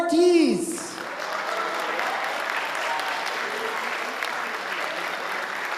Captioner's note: audience applauding and cheering